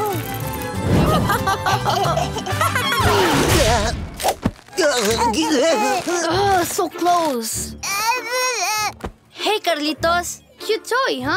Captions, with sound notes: [laughing] [grunting] [babbling] Oh, so close. [babbling] Hey, Carlitos. Cute toy, huh?